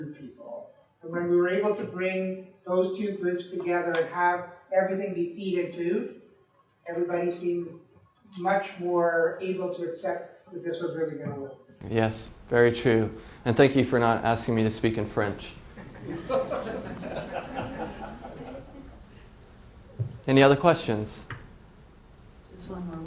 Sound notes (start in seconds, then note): 19.4 laughs